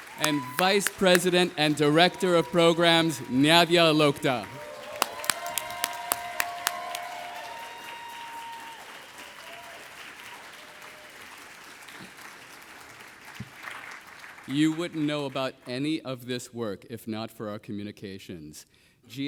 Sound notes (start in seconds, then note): 4.8 audience applauding